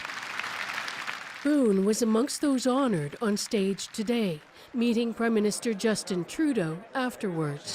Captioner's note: applause